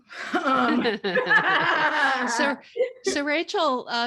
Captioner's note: everyone laughing